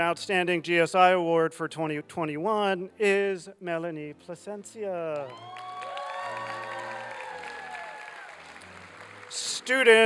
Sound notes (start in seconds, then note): 5.1 applause and cheering